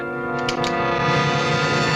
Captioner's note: empty gun clicking